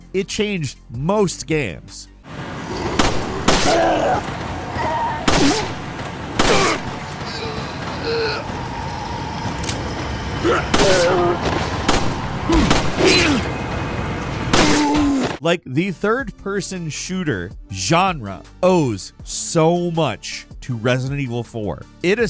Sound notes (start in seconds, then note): 2.9 gun firing; 8.9 dramatic music; 10.7 gun firing; 12.0 zombies moaning